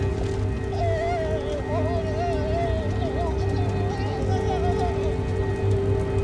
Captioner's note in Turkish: Çığlık sesi